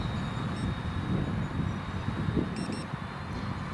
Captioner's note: beeping